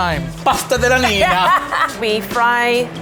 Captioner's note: laughs